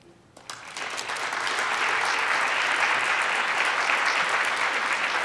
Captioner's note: audience applauds